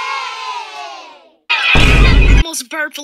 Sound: Definitely not the iMovie kids cheering sound effect; Other Sophie makes the vine boom sound effect

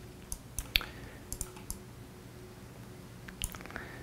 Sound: clicking mouse

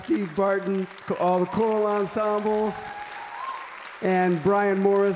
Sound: applause, cheering

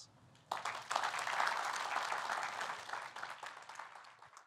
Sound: applause

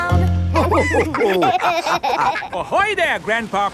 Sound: all laughing

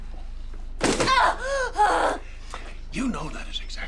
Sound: yells

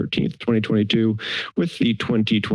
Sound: inhales

